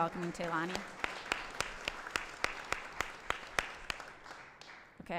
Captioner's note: applause